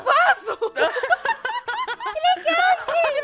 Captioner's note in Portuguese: Risadas